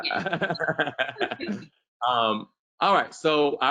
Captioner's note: laughs